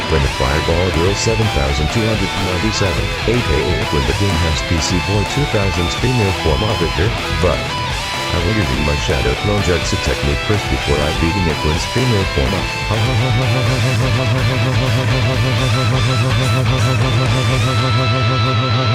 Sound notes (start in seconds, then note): 16.7 laughs